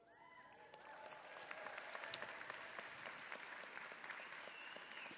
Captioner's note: audience clapping and cheering